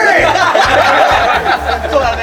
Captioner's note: laughter